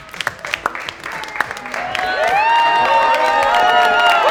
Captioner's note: clapping and cheering